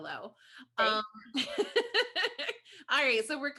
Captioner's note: laughs